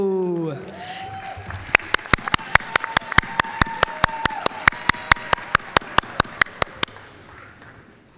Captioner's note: applause, cheering